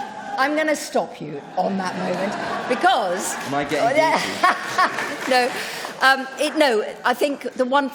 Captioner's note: laughter